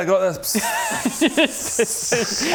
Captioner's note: respectful pissing noises